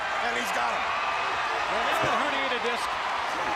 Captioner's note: crowd chatter